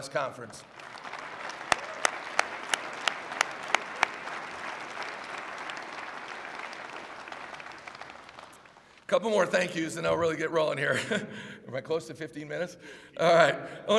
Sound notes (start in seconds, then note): 0.6 applause